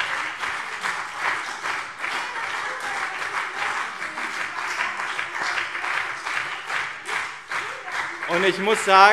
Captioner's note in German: Beifall BÜNDNIS 90/DIE GRÜNEN und CDU